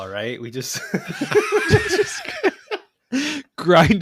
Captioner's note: laughter